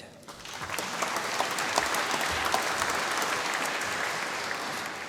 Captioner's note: applause